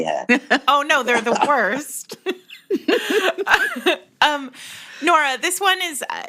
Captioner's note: laughter